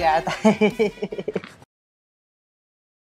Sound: laughing

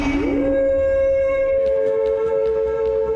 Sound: humming

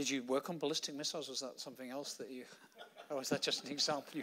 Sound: laughing

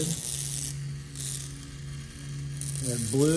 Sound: zapping

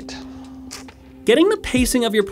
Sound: clicks lips

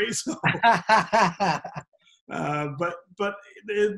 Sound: both laugh

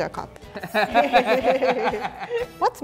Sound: laughing

